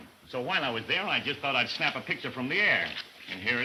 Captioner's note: none